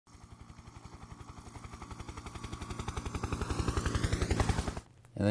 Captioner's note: helicopter in flight